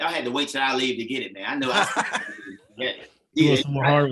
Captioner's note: chatter